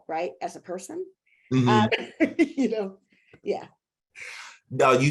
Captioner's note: chuckling